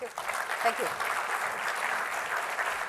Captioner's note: applause